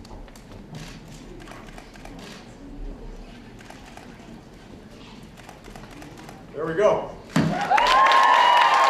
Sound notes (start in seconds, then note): 3.8 applause